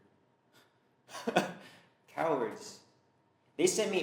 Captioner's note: laughs